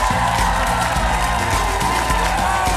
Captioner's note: applause